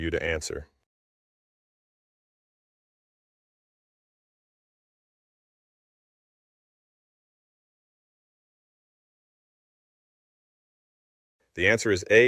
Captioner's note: no audio